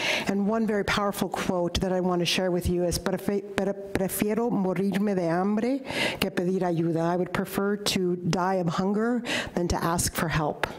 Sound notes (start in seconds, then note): 3.1 speaking in foreign language